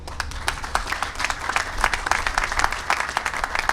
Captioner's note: applause